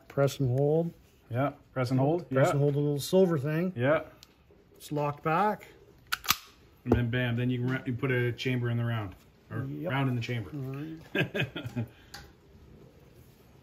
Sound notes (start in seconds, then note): 11.0 laugh